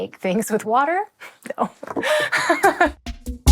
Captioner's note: laughs